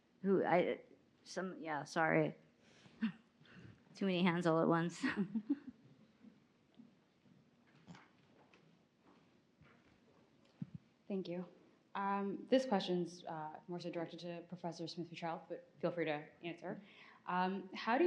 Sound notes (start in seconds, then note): 5.0 laughs